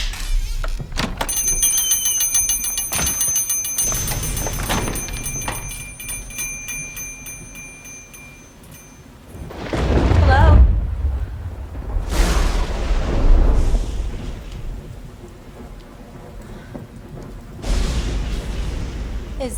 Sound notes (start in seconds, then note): 1.2 bell rings; 4.6 door closes; 13.4 thunder & lightning